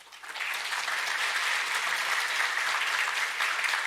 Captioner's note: audience applauds